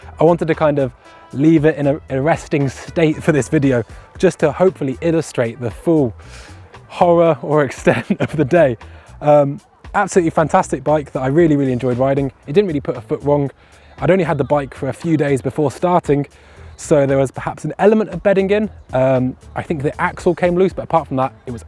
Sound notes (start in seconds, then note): 7.8 laughs